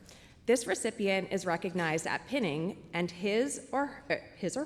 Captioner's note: none